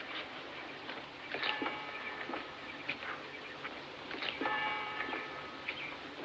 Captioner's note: tolling Continues